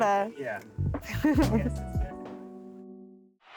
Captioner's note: laughing